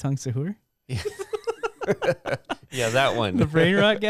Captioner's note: laughing